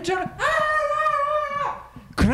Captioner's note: screams